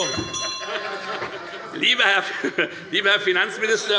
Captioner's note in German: Heiterkeit - Unruhe - Glockenzeichen